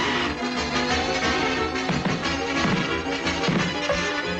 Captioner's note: feet screeching; Salomi's feet pounding